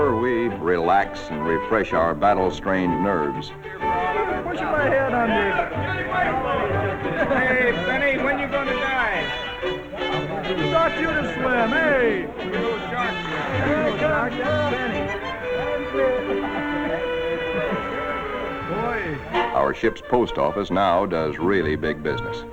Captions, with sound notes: we relax and refresh our battle of strained nerves. (men laugh and talk, upbeat music) Our ship’s post office now does really big business